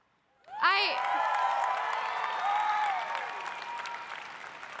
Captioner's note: audience cheering